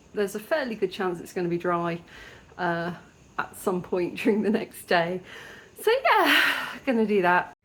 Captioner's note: sighs